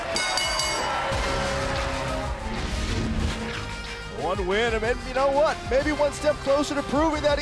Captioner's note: bell ringing